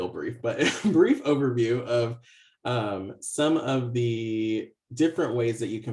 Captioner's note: laughs